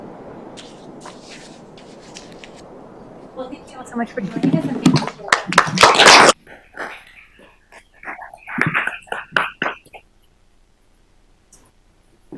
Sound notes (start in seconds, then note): 4.9 applause